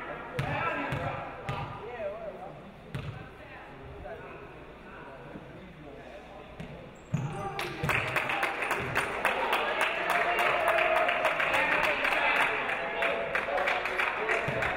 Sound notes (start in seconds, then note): 7.6 audience applauding